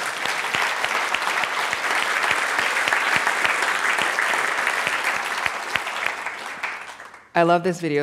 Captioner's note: applause